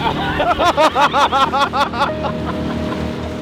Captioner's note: laughing